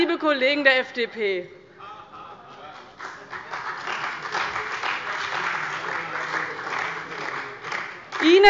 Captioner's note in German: Beifall bei dem BÜNDNIS 90/DIE GRÜNEN und der CDU